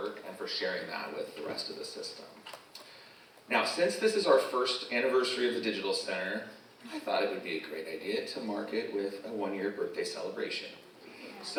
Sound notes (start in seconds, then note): none